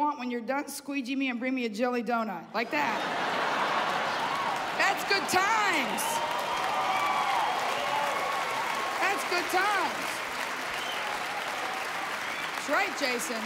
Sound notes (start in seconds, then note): 5.6 cheers and applause